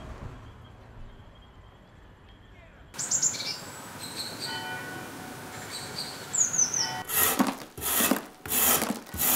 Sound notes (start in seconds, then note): 4.4 church bells; 7.0 scratching noise